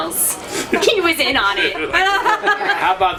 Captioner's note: laughter